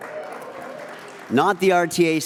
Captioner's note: audience applauds